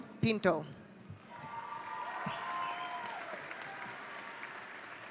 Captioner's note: audience cheering